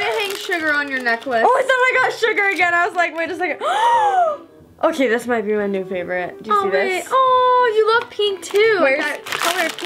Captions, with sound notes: - I'm gonna hang Sugar on your necklace. - Oh I thought I got Sugar again I was like wait a second (gasps) Okay this might be my new favorite, do you see this? - Aw, you love pink too, that color pink.